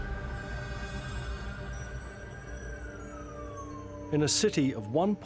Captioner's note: intense music continues; siren wails; tense music